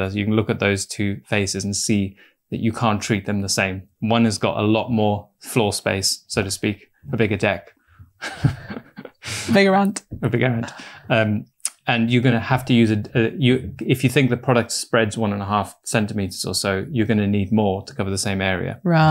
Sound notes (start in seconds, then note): 8.2 laughs